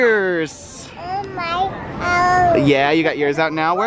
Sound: babbles

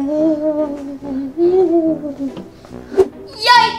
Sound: laughs creepily; ghost wailing

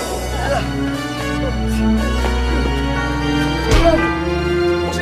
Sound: blows; grunting

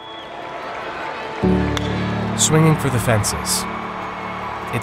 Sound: crowd cheering; inspiring music; bat cracks

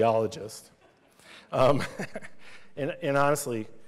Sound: laughter

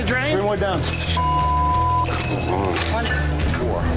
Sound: beep

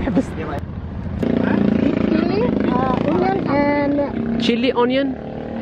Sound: engine sound

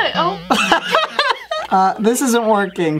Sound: laughs

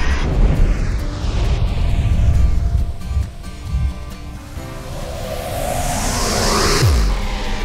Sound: rocket engine; space whirring; digital drum; sweeping noise

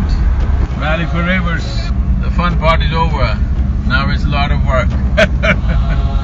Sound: laughs

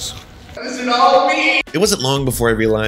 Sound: yelling

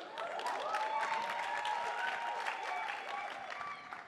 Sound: attendees applauding

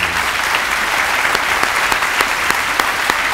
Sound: applause

